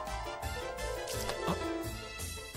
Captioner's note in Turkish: Su sıçrama sesi